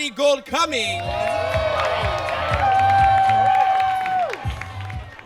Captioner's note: audience cheers